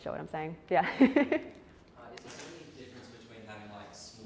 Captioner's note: laugh